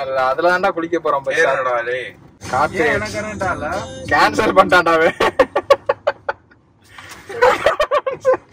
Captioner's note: Laughs